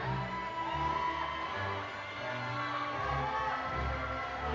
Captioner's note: audience cheering